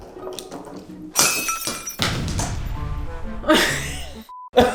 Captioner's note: glass breaking; laughing